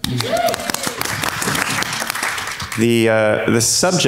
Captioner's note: crowd claps